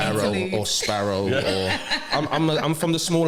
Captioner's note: laughter